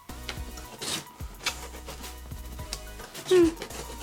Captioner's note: paper ripping